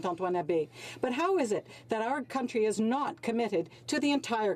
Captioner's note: speaking French